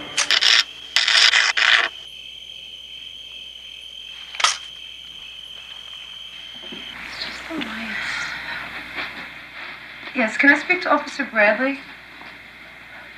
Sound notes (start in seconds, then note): 0.0 electric buzz; 4.3 shears drop